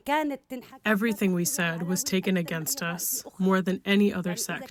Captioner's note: through translator